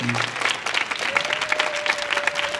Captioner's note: audience clapping